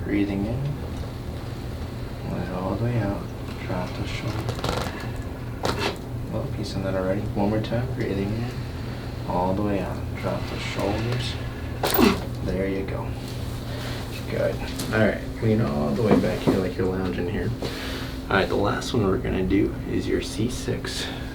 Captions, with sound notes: Breathing in, let it all the way out. Drop the shoulders. (joints popping) Well, piece of that already. One more time, breathing in. All the way out, drop the shoulders. (joints popping) (patient grunting) There you go, good. Alright, lean all the way back here, like your lounging here. Alright, the last one we're gonna do is your C6.